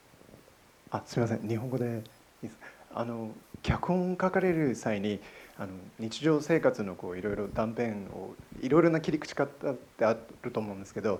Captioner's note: man in audience, in Japanese